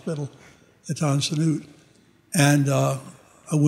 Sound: speaking foreign language

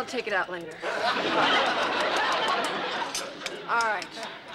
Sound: laughter

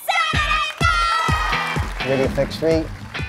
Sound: applause

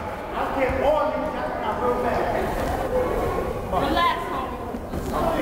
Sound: coach shouting

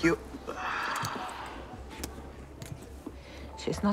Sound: sighs

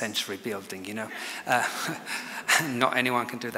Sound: chuckles

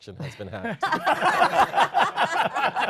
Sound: laughter

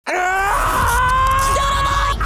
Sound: screaming

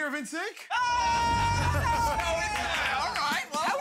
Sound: shouting and clapping

